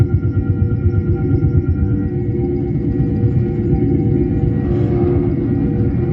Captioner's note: eeery space noises